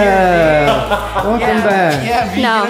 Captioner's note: laughing